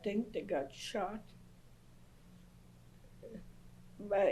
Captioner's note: pauses for 3 seconds